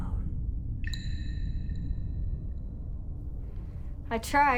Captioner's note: water drips